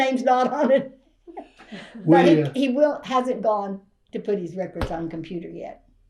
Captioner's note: laughs